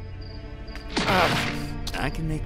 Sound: groans in pain

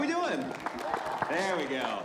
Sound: audience cheering and applauding

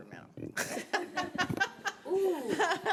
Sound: laughing

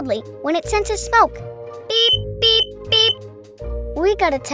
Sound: electronic beeping

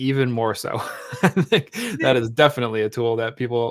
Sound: laughs

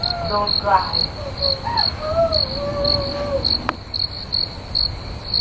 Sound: crying; sobbing

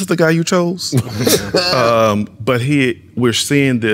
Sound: laughing

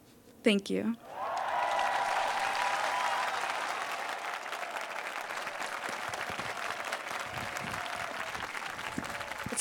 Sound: applause

